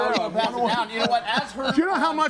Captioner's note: group chattering